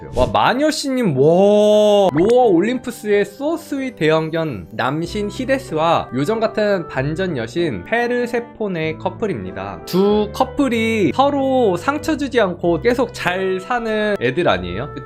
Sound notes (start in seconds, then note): 2.1 voiceover